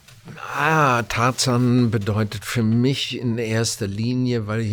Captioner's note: foreign language